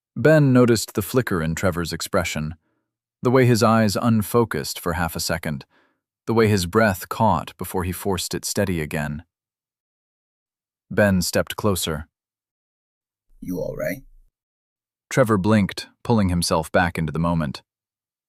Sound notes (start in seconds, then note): 13.6 quiet, measured